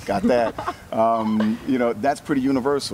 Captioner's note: laughs